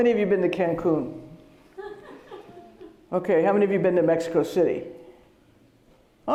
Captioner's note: laughter